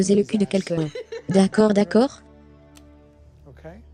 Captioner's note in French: des rires